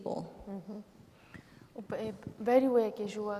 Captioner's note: speaking kurdish